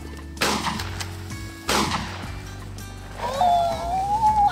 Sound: gun fires; squeals

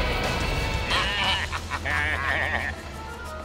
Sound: baaing

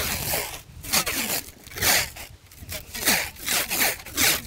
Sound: tape ripping

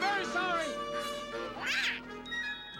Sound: honks

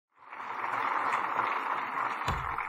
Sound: applause

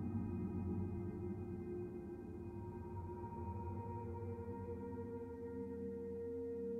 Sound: spherical sounds

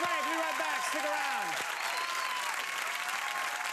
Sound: cheers and applause

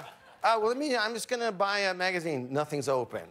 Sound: laughter

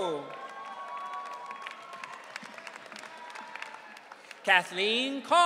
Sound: audience cheering

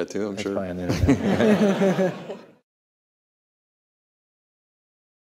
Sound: everyone laughs

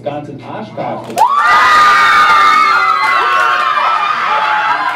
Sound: yells and screams

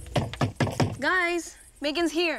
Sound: knocks on door

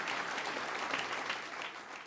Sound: applause

